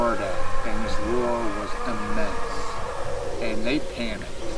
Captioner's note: Sasquatch roaring